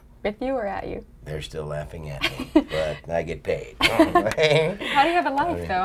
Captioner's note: laughs